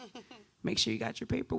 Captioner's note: laughs